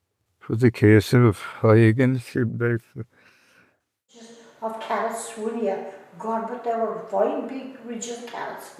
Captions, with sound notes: it was a case of I against him, like [laughter] - God, but they were fine big ridges of carrots